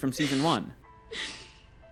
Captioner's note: Rita crying